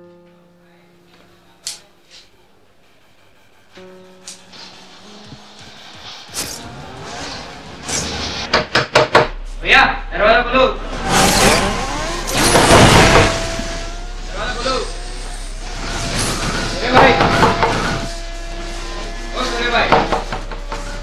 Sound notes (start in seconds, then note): 11.6 still knocks the door